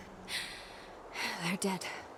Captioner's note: sighs